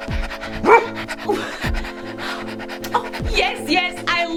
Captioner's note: dog barking